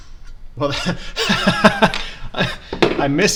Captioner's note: laughs